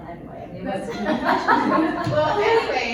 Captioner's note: laughter